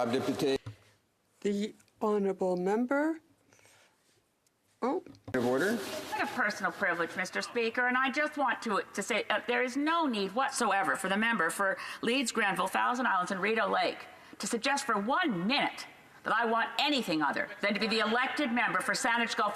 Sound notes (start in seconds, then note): 4.1 speaking French